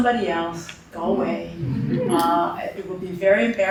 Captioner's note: chuckling